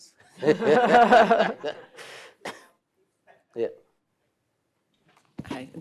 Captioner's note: laughs